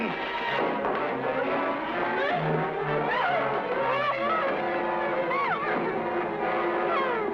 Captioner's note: Tess grunting; suspenseful music